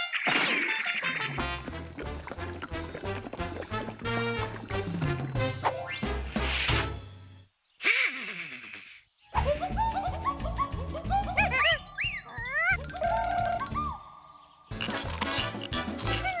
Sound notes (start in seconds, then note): 7.8 snickering; 11.5 whistling